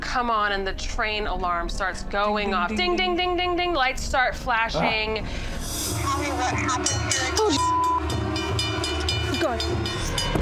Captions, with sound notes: on, and the train alarm starts going off, ding-ding-ding-ding-ding. Lights start flashing. Oh, Jesus. [train alarm clanging] Keep going.